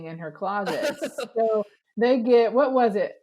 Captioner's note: laughs